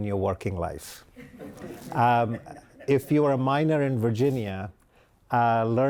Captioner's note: laughter